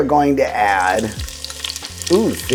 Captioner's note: oil sizzling